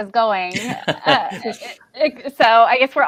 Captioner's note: laughs